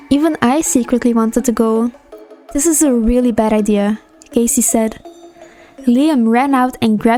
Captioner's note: sigh